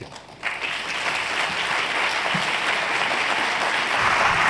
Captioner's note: applause